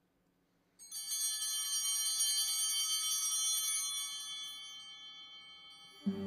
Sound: bells ringing

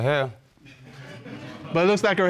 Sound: audience laughing

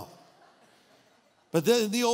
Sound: audience laughing

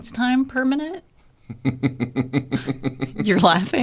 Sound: laughs

